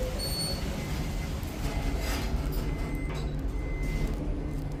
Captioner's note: door buzzer